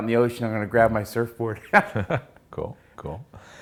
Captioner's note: laughs